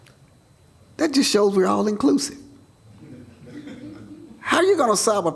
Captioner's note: laughter